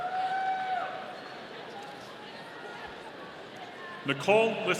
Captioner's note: audience cheering